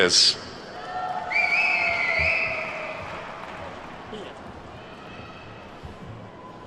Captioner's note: attendees whistling and clapping